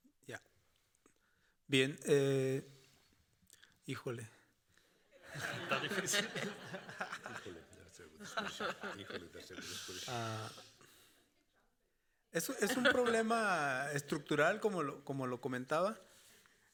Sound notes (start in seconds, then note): 0.0 moderator speaking Spanish; 1.2 speaking Spanish; 5.2 audience, and moderator laughing